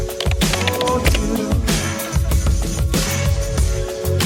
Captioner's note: upbeat R&B music; keyboard clicking